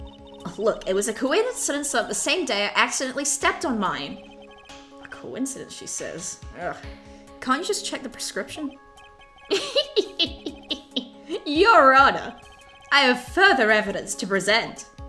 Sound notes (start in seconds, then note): 9.5 high-pitched laugh